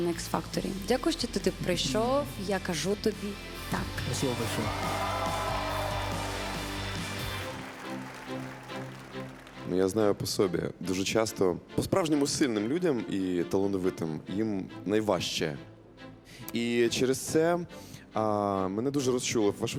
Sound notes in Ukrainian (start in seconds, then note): 4.2 оплески